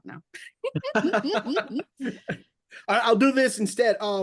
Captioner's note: laughing